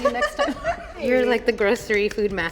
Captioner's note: laughs